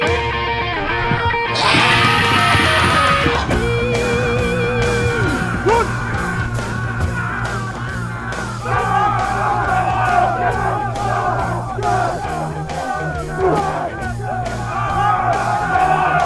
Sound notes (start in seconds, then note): 9.1 shouts; 14.9 grunts and tackles